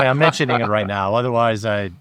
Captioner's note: laughing